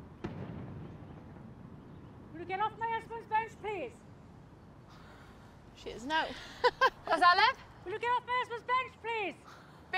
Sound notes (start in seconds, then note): 5.1 girls scoff; 6.6 laughs